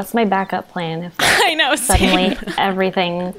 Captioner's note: they laugh